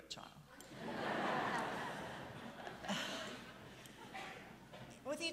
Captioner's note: audience laughing